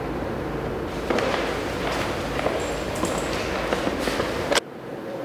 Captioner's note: footsteps